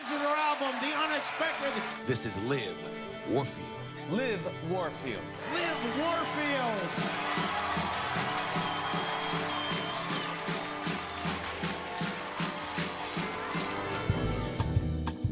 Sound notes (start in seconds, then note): 7.3 audience cheers; 9.3 drum beat